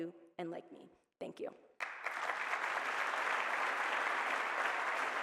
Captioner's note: applause